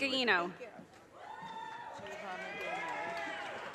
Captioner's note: audience cheers and applause